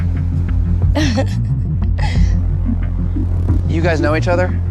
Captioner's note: laughs